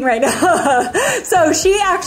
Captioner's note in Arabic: تضحك كريستال